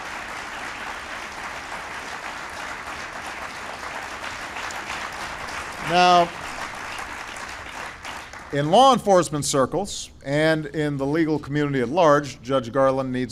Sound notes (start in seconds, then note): 6.2 applause